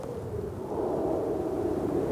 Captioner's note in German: Windbrausen